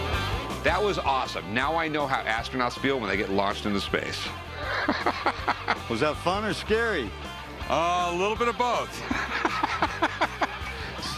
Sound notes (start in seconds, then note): 4.4 laughs; 8.8 Rick laughs